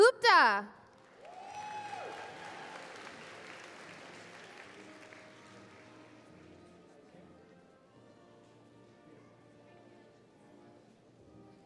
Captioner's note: applause